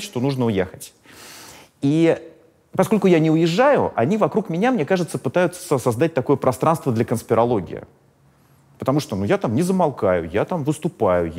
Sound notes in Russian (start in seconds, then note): none